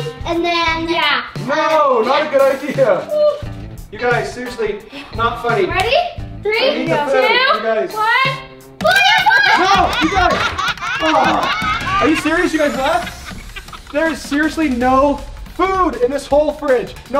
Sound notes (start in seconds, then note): 9.3 laughter begins